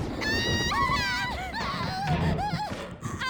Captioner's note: Futaba screams